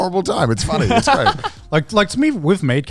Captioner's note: laughs